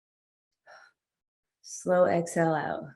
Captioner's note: exhales air